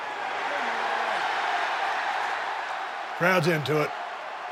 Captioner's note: crowd cheers